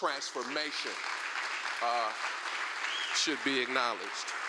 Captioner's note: applause